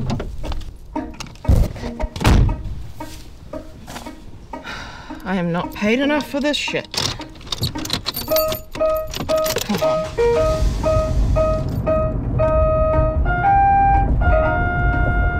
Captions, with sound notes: - I am not paid enough for this shit. Come on. (car engine starts) (lighthearted music)